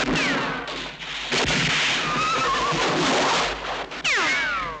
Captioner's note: horse whinnies